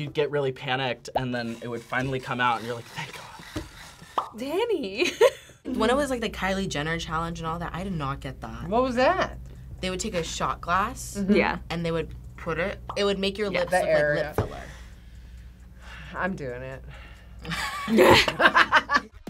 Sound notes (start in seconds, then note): 5.2 laughs; 17.4 both laugh